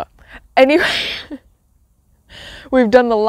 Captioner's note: laughs